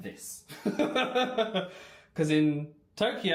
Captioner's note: laughs